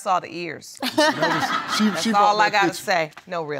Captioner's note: audience laughing